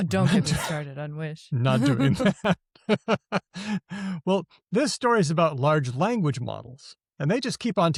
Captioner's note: laughs